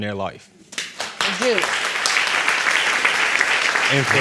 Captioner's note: audience applauding